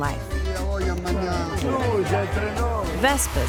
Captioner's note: card players chatter